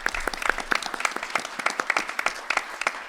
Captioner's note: applause